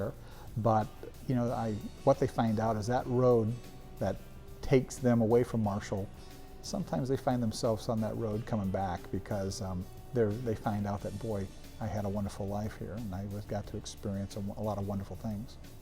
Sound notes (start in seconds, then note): none